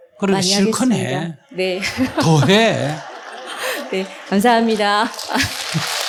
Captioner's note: audience Laughter